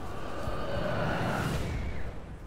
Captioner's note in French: cris inquiétants